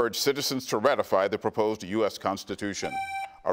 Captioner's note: buzzer beeps